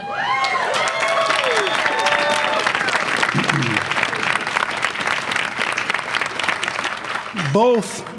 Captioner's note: applause